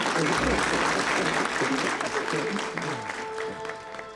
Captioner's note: applause; dramatic music plays